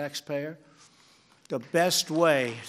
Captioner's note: applause